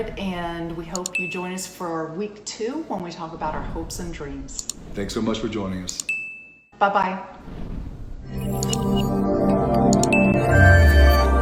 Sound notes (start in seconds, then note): 6.0 dinging; 8.4 upbeat music